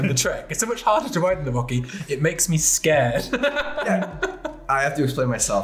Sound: laughs

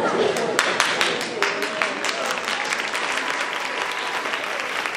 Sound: audience applauding

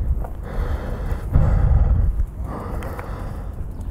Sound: takes deep breath

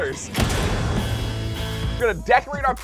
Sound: fire burning

